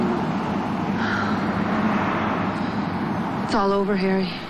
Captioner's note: sighs